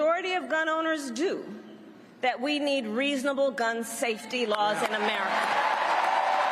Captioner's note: cheers and applause